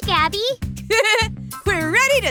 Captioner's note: chuckles